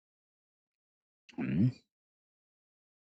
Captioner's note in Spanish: carraspeo